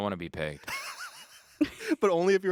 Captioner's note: laughing